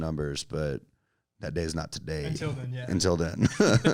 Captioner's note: laughs